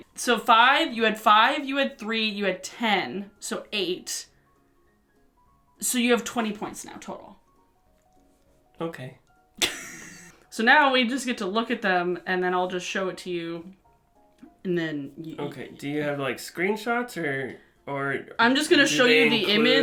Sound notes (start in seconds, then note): 9.6 chuckles